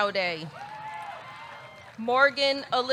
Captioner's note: audience cheering; audience clapping